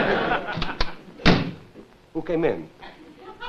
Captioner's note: door opens and shuts